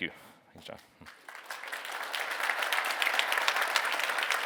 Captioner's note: applause